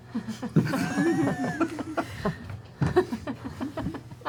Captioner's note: laughter